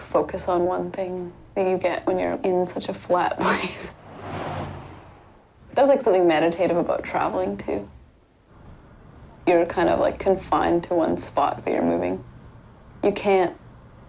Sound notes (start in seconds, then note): 3.4 chuckling; 3.7 car zooms